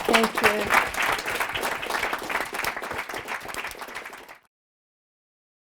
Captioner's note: applause